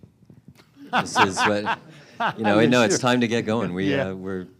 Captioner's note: laughter